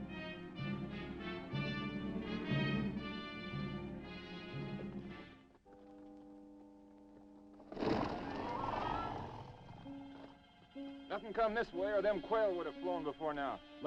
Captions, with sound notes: (horse hooves clopping) - Nothing come this way, or them quail would have flown before now.